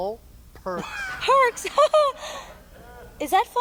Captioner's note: laughing